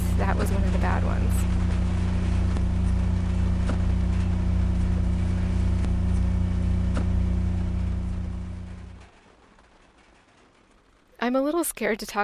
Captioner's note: Silverton rain and generators